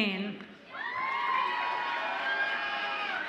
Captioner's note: audience applauds and cheers